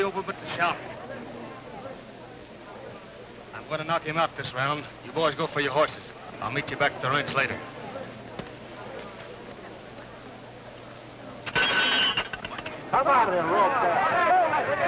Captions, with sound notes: I'm gonna knock him out this round. You boys go for your horses. I'll meet you back at the ranch later. (bell ringing) (crowd jeering)